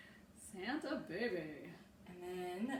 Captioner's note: deep voice